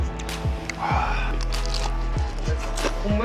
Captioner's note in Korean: 바사삭☆